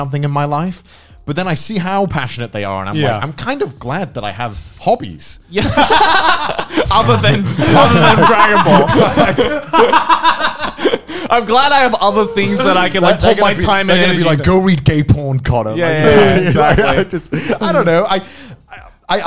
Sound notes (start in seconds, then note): 5.5 men laughing